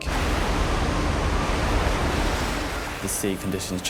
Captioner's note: sea churning